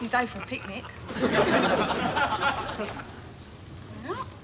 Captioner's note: audience laughing